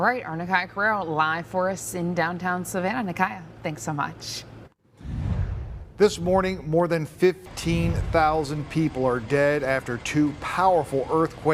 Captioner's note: gun